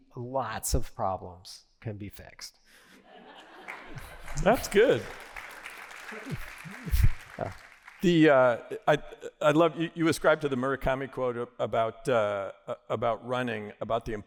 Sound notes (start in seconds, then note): 2.9 laughter; 6.5 applause